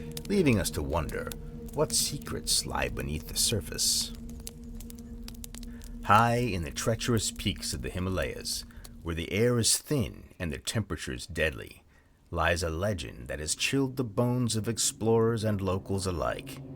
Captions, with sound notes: leaving us to wonder what secrets slide beneath the surface. [Fire crackles] High in the treacherous peaks of the Himalayas, where the air is thin and the temperature is deadly, lies a legend that has chilled the bones of explorers and locals alike.